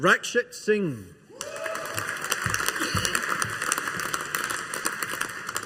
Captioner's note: audience applauding